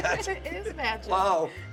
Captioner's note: laughing